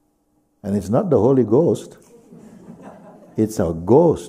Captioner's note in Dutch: gelach